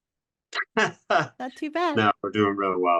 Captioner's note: laughs